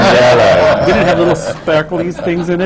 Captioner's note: laughter